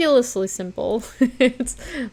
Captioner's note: chuckles